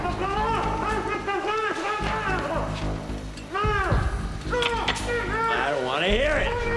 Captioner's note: gagged shouting